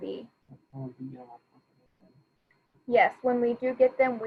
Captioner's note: faintly speaking